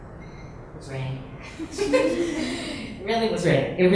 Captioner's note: laughs